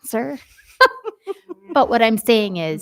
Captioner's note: members laughing